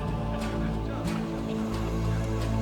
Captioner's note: men chanting